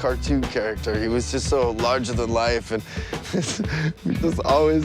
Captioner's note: laughs